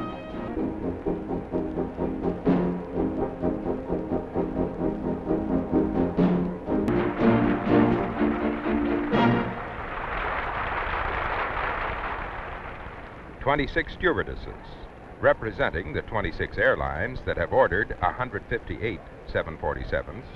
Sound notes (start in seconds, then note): 8.4 audience applauding